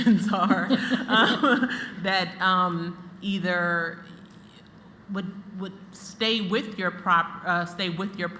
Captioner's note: laughter